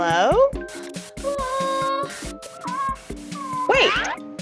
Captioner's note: TV screen crackles; Blueberry whimpering